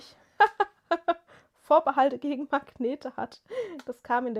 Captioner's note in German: gelächter